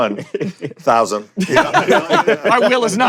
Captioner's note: laughter